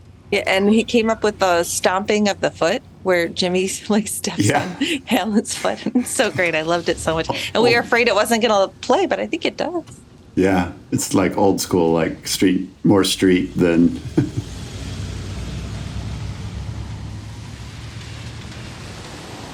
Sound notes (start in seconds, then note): 13.5 chuckles